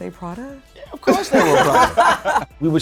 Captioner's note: laughing